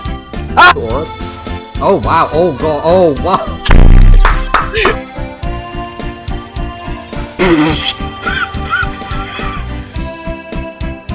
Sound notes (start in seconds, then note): 4.1 clap of shame